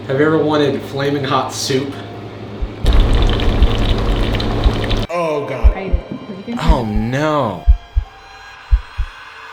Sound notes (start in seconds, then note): 2.8 soup boiling; 8.5 heart beating